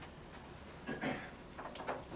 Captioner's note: Addison clears throat; door clatters shut